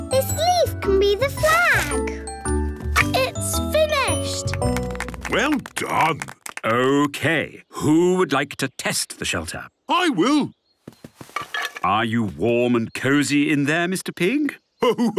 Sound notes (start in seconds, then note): 4.2 applause